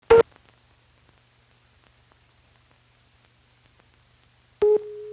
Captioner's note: tone